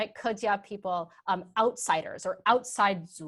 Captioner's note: speaking in a foreign language